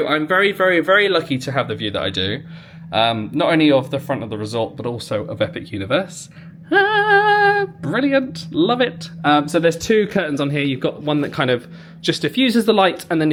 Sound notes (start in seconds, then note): 6.6 humming